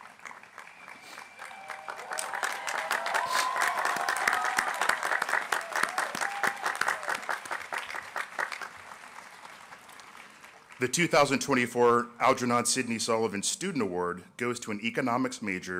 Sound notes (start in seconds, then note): 8.4 applause